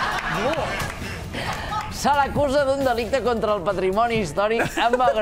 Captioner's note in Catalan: aplaudiments